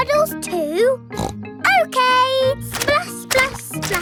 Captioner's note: snorts